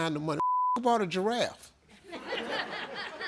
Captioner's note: beep; audience laughs